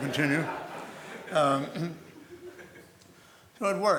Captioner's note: laughter